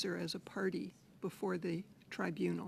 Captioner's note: speaking French